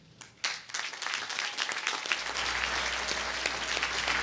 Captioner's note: applause